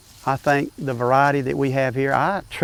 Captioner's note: background grassy sounds